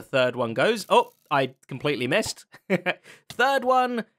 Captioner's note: chuckles